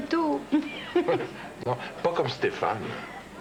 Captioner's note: Rires